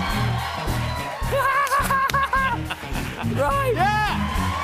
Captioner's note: laughs